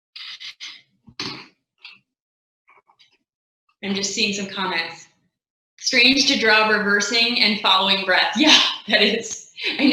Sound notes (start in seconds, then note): 8.4 laughing